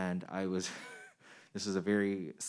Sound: man chuckling

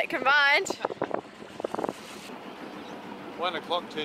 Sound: laughing

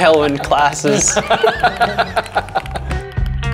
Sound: all laughing; upbeat music

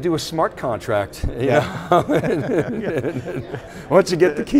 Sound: chuckling

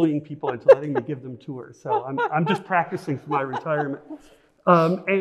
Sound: laughs

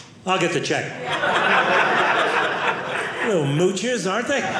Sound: audience laughing

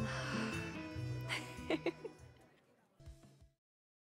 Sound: sighs; giggles

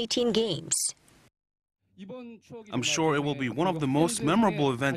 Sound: Korean

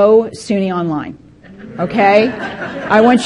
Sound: participants laughing

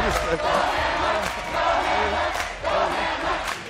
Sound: crowd chanting

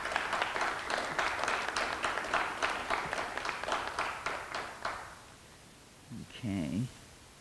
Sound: clapping

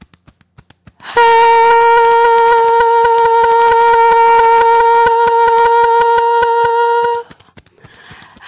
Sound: beating Chest

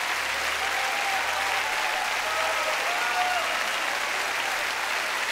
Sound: cheers and applause continue

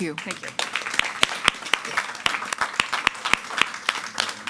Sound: audience applauding

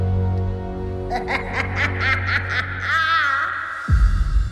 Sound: Ursula laughs

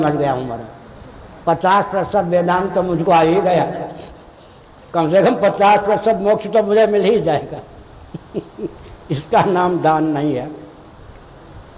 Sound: laughs

